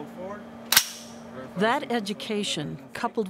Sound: gun cocking

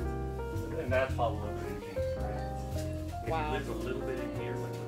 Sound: faintly speaking

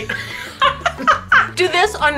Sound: Colleen laughing

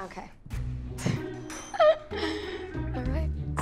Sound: laughs

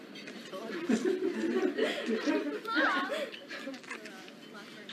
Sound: people laughing in background

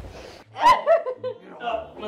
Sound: laughing

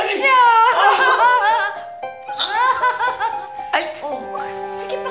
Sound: chuckling

